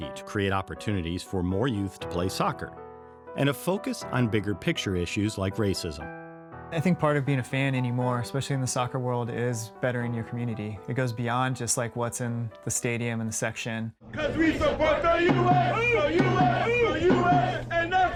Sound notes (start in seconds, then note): 14.0 everyone Chanting; 14.8 drumbeat